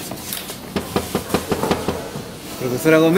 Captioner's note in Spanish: Toc, toc, toc